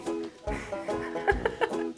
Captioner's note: laughter